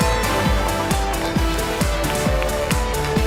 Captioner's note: cheers and applause